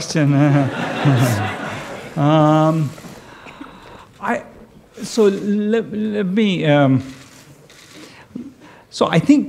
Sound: laughter

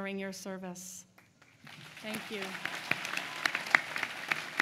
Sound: applause

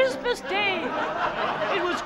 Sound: laughter

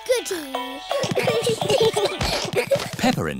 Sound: all giggling

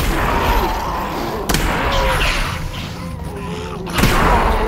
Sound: zombie moan

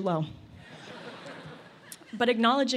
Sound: laughter

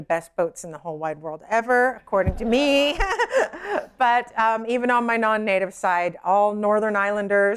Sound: laughter

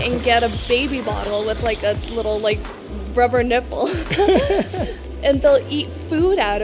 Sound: laugh

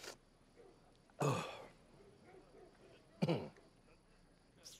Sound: coughs

